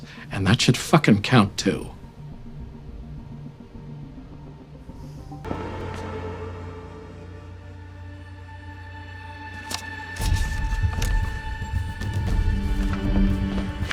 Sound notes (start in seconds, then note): 2.9 tense music; 5.9 suspenseful music; 9.5 paper rustling